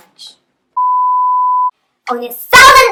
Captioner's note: beep